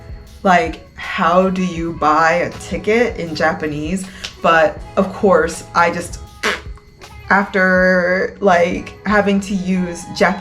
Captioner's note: pbbt